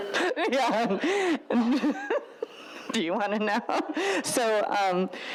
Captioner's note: laughs